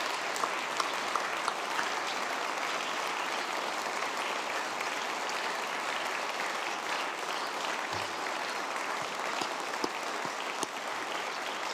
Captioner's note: applause